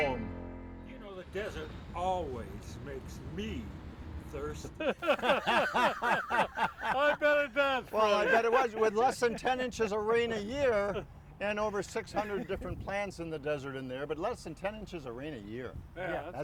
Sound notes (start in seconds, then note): 4.7 cast laughs